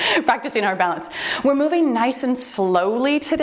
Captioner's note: timer beeps